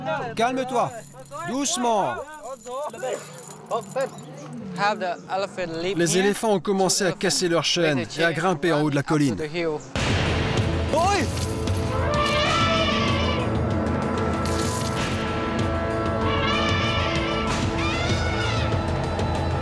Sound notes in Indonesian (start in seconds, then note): 11.0 suara rantai; 12.0 suara teriakan gajah